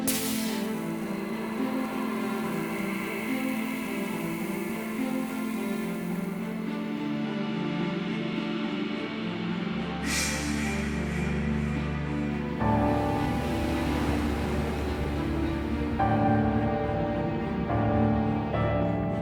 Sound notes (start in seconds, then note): 0.3 cup sizzles; 12.6 bubbling